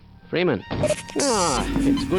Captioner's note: med station sfx from half-life plays as he sits on the chair